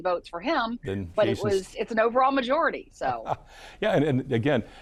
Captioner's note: laughing